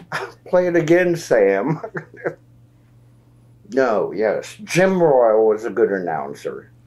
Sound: laughs

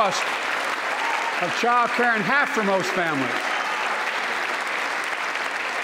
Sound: applause

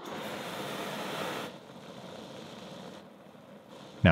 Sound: flame roaring

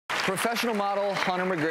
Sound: applause

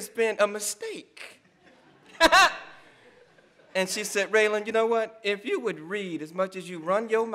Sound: laugh

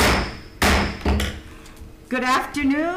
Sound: gavel bangs

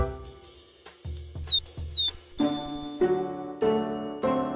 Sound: cheeping

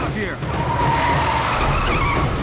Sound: screeching

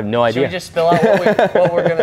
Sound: laughing

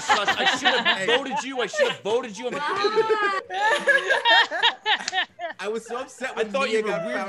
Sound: laugh

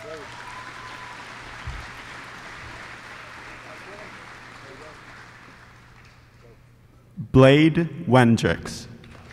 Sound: applause

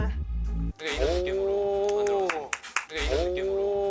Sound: clap

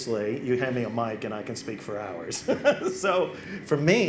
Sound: laughs

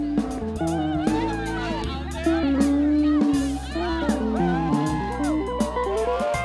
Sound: students cheering

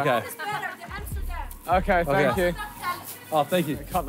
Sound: woman yelling indistinctly

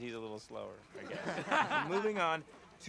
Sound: all laughing

